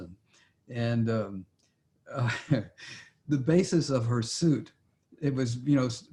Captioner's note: laughs